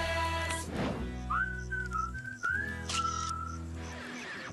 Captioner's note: whistling, Camera Clicking